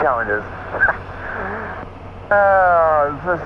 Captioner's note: laughs